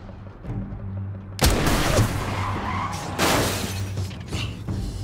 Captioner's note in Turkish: Çarpma sesi